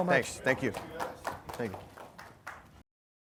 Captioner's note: applause